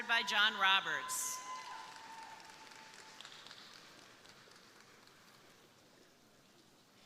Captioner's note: crowd cheering; crowd applauding